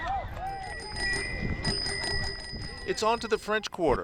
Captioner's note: onlookers cheering; bells chiming